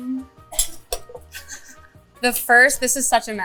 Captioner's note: chuckling